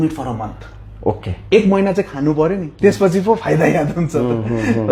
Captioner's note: laughs